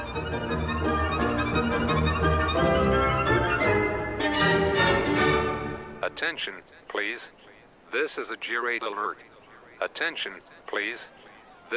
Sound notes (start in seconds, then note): 6.0 automated Voice